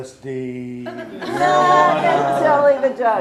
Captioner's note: laughs